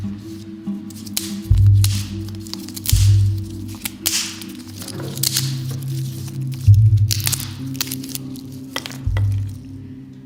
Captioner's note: fast snapping sounds